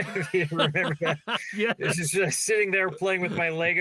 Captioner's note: laughing